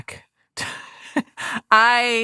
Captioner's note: chuckles